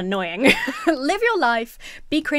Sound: laughs

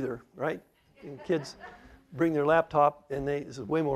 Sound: laughter

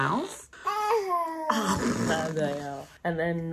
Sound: baby noise

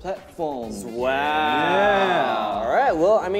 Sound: all exclaiming

